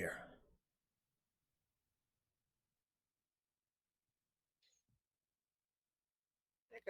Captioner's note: long pause of silence